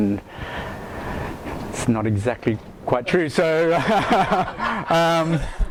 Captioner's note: laughs